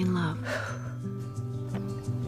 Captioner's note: exhales